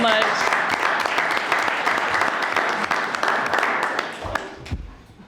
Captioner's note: audience applauding